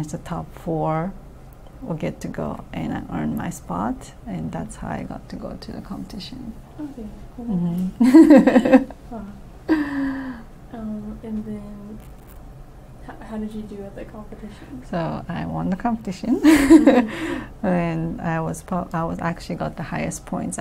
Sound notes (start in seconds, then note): 8.0 laughs; 16.4 laughs